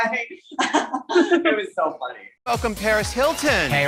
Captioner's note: laughs